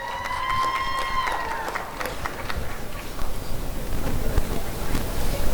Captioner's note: applause and cheering